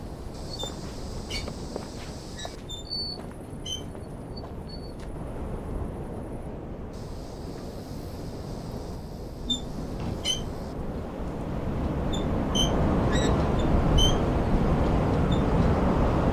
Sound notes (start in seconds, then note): 0.0 wind blows; 0.4 bicycle wheel squeaks; 8.4 bicycle wheel squeaks; 9.6 strong wind blows